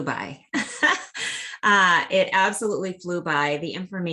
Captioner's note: laughter